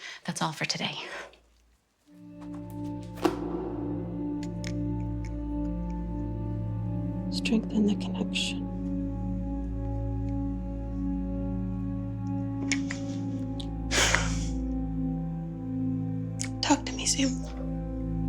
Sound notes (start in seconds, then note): 2.3 light eerie music; 13.9 Ally sighs